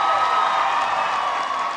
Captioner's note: applause